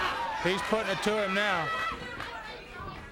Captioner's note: blows thudding; wrestlers grunting